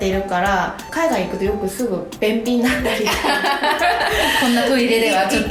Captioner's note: laugh